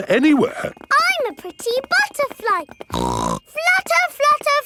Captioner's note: snorts